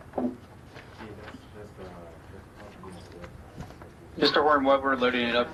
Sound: faintly speaking

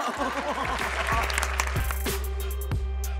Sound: laughter; theme music

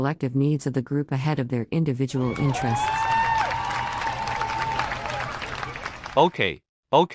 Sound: crowd cheers

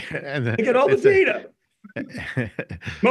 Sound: snickering

